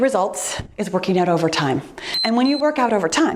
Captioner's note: timer beeps